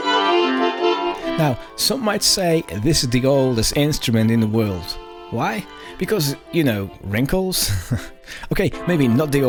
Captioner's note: laughs